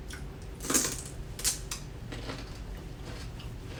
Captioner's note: celery crunching